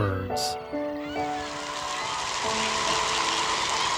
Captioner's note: birds squawking